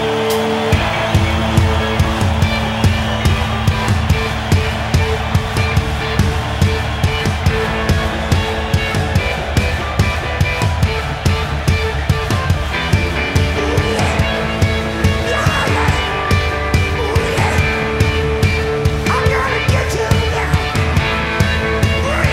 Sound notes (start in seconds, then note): 0.6 rock music; 4.9 audience clapping